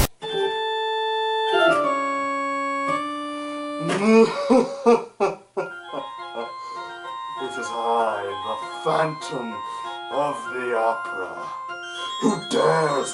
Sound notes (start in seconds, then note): 4.2 evil laughter